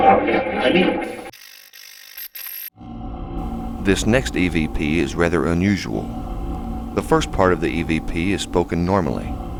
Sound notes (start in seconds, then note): 1.8 static fizzing